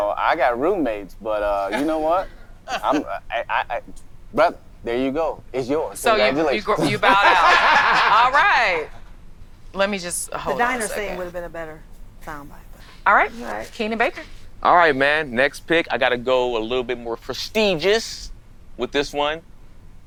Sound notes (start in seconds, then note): 7.7 all laughing